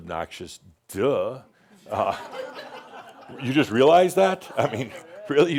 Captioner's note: some chuckles